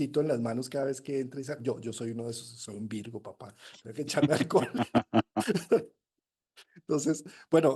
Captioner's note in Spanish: risas